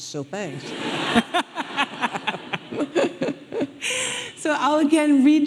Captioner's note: audience laughing